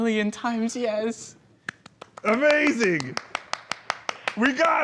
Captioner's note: applause